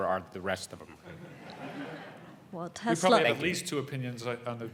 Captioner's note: laugh